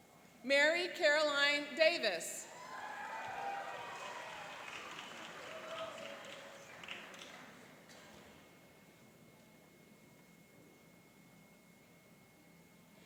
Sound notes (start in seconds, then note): 2.5 cheering and applauding